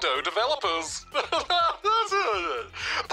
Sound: laughs

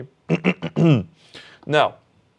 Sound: clears throat

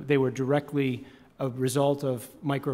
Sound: none

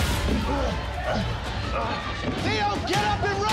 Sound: fighters grunting

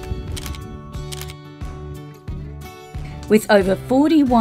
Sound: camera shutter

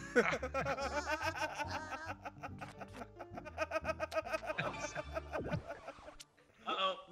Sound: laugh

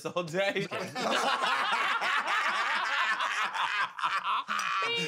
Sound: laughter

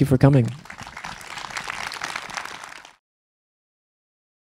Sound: applause

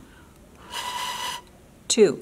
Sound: air passing through straw

